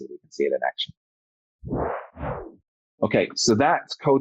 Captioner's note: whoosh